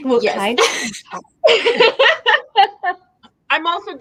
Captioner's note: laughs